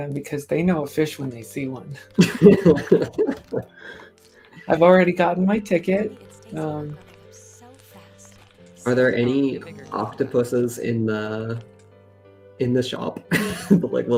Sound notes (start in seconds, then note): 2.1 laughter